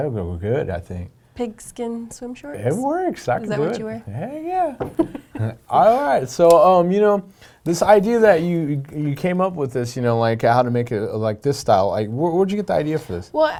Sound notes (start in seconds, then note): 4.9 laughing